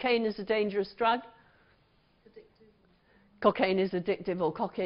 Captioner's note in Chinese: 無聲